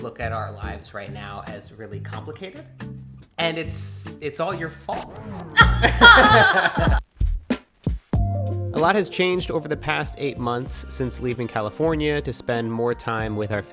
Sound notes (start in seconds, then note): 5.6 both laugh; 7.4 chill music